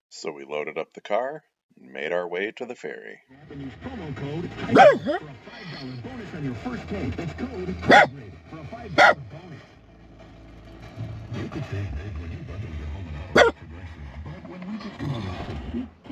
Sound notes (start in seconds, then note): 4.6 Zilla barking